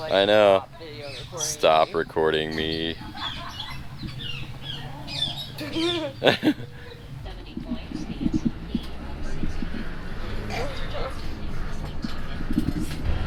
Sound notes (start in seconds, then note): 3.3 birds chirping; 5.9 laughs; 9.4 engine roars; 11.0 scoffs